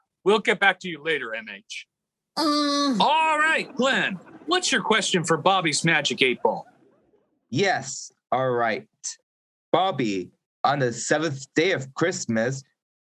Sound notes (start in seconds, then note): 3.5 audience laughing